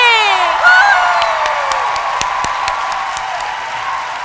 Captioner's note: cheering